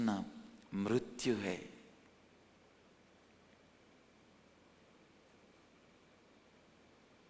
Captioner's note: hindi